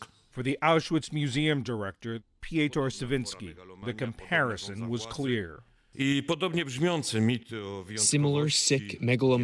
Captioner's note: speaking foreign language